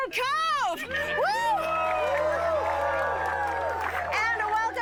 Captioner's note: cheering